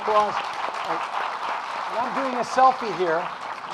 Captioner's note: audience applauding